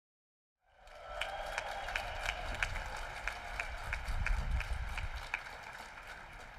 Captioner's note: applause